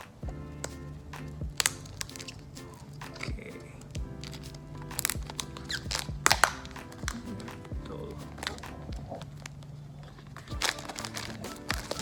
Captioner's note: sound of plastic cover being torn and opened